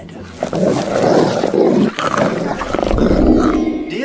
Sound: snarl & gobble

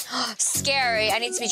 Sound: gasps

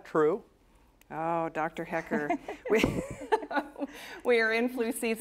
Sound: laughter

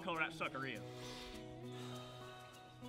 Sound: exhales angrily

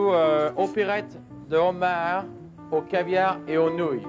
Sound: speaks foreign language

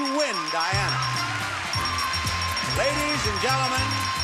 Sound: bell dinging; audience applauding

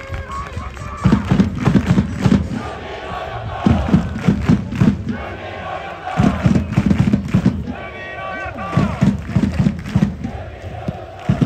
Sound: clap, clap, clap, clap clap

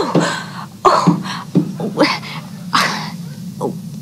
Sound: lady moans

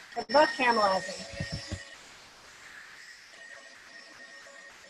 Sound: mixer whirring

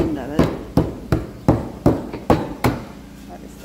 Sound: hammering

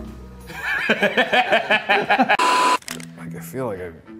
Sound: laughing

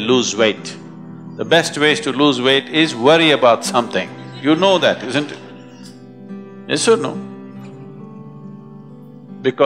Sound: laughs

